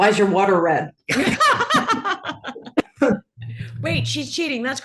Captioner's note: laugh